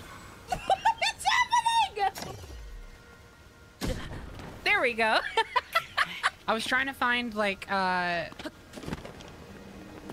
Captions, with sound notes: [Laughing] WHAT IS HAPPENING!? There we go! [Laughter] I was trying to find, like, uh...